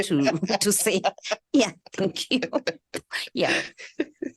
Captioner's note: laughter